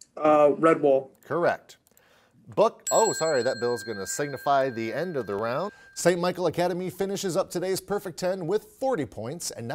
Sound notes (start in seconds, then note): 2.8 bell chimes